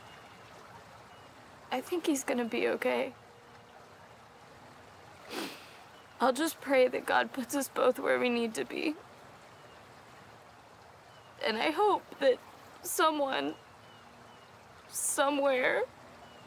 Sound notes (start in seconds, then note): 5.2 sniffs